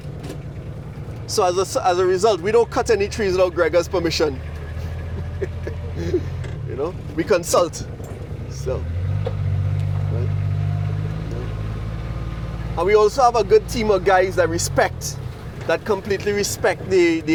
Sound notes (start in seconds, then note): 4.6 laugh